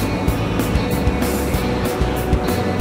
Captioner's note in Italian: none